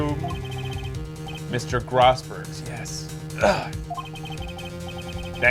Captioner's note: grunts